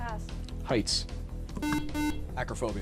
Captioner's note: beep